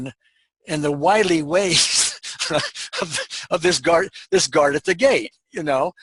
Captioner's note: laughing